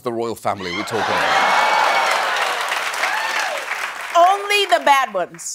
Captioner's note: applause